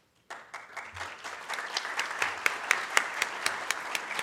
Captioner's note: audience claps